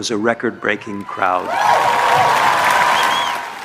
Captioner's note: crowd Cheering